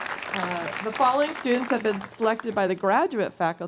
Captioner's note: applause